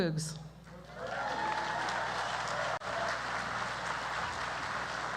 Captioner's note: audience cheers